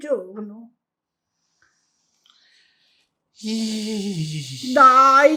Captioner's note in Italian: sospiro